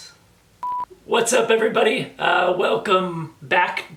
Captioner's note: none